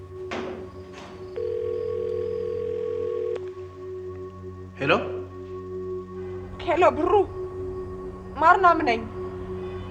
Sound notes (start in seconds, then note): 1.3 phone Rings